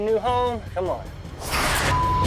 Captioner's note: hisses